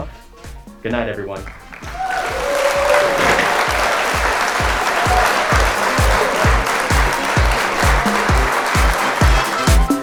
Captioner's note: music and applause